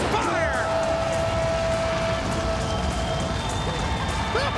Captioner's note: crowd cheering; upbeat music continues; fire roaring